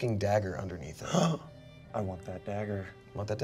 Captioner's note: gasps